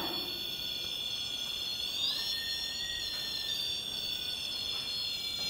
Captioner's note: whining